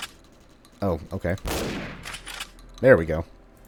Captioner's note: bam; bam